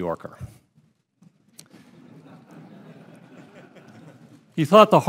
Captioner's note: laughter